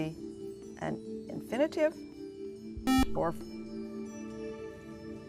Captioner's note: buzzer